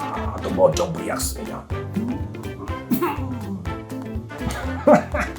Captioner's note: Czech language 😊